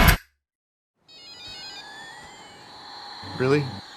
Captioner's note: toy beeping